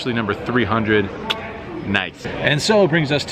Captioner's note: tongue click